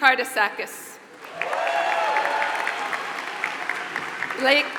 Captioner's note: applause